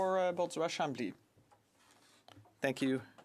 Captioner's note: speaking French